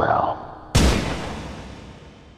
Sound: gunshot

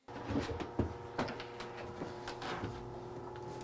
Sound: machine whirring

